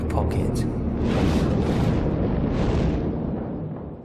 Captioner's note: boom